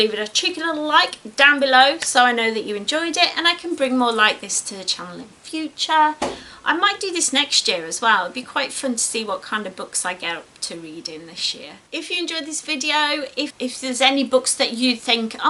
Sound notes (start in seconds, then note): 6.2 mysterious bang off camera